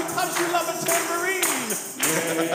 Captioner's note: speaking faintly